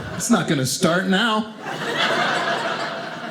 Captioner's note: audience laughing